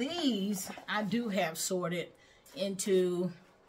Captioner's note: plastic crinkling